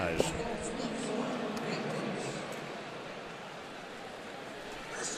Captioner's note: pa announcement